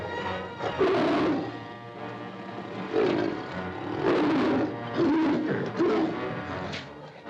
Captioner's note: suspenseful music; tiger roars; dramatic ominous music